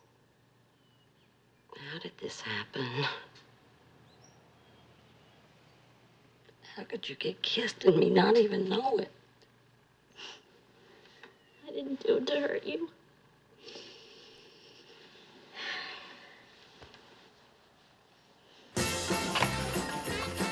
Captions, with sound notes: How did this happen? How could you get kissed and me not even know it? (SOBS) I didn't do it to hurt you. (SIGHS) (CHRISTMAS MUSIC PLAYS)